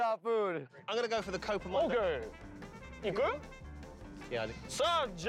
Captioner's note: speaking Japanese